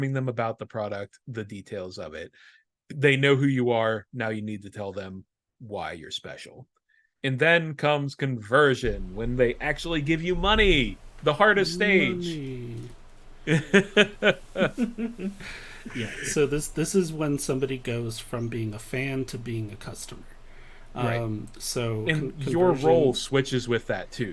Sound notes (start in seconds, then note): 13.4 laughter